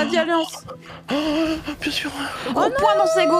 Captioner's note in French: en inspirant